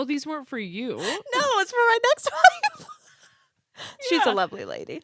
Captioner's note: both laughing